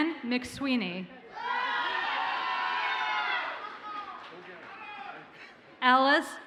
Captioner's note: audience cheers and applauds